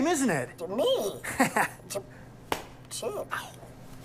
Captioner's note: laughs